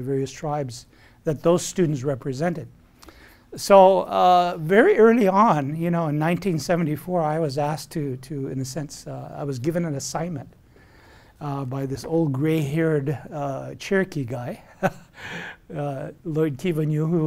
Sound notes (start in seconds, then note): 15.2 laughs